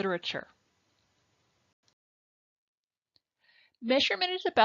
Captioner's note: silence